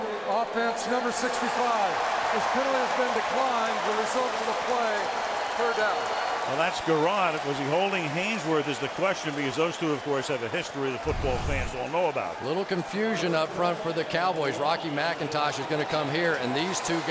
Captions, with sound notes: Holding, offense, number 65. [cheering] This penalty has been declined. The result of the play, third down. Well, that's Gurode. Was he holding Haynesworth is the question because those two, of course, have a history the football fans all know about. Little confusion up front for the Cowboys. Rocky McIntosh is going to come here.